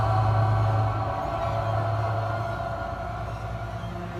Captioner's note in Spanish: Gemidos